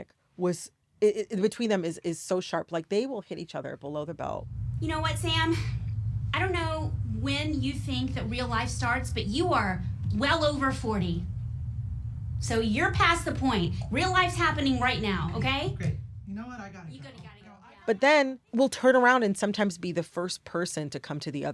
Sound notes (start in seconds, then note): 4.7 soundbite of tv show, "somebody somewhere"